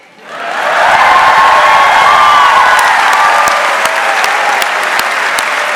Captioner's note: audience cheering and applauding